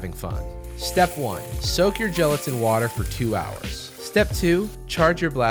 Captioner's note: gellets falling, running water